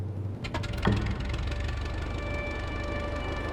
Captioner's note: engine starts; wind blowing